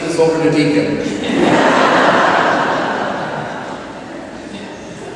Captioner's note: laughter